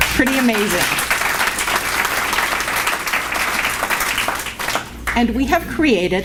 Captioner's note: applause